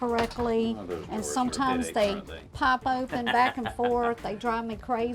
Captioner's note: laughs